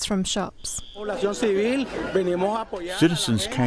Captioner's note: speaking in Foreign Language